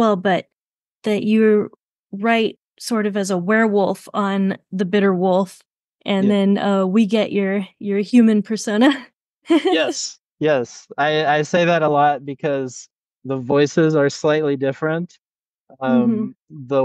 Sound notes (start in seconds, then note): 9.6 laughs